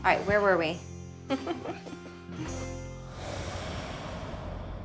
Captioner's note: chuckling